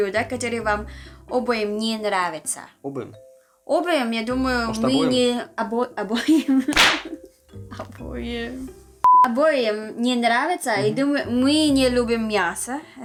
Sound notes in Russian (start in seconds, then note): 6.1 смех